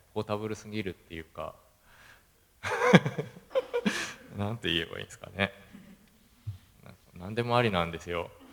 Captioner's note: laugh